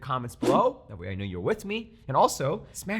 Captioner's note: air swish